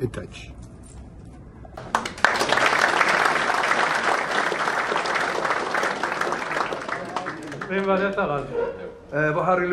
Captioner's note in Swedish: Applåder